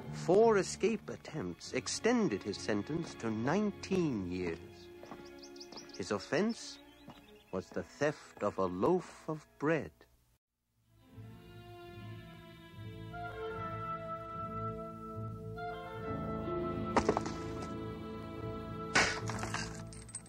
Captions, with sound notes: four escape attempts extended his sentence to 19 years. His offense was the theft of a loaf of bread. (dramatic music) (rocks crack)